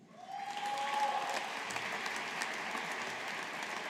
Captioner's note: audience applauding